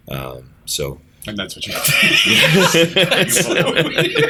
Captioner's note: laughter